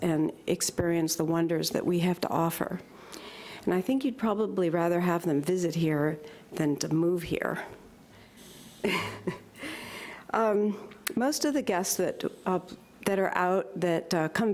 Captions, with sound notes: and experience the wonders that we have to offer. And I think that you'd probably have them visit here than to move here. (chuckles) Most of the guests that are out